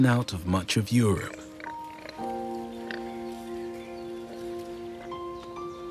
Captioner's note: boars oinking, insects chirping